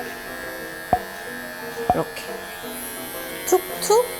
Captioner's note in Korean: 효과음/뽁하는 소리